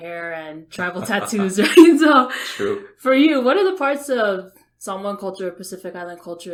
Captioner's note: laughs